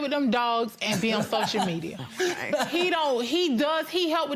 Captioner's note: laughing